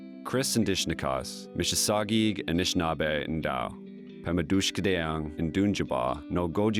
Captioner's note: speaks Indigenous language